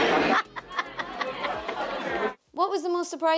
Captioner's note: laughing